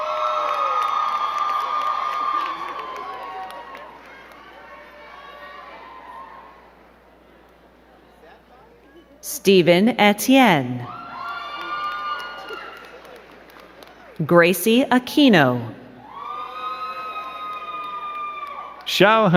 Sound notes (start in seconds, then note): 0.0 crowd cheering and clapping; 10.8 crowd cheering and clapping; 15.9 crowd cheering